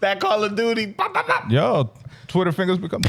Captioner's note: speaking In Foreign Language